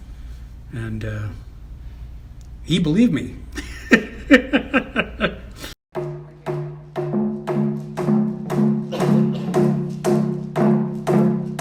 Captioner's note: chuckles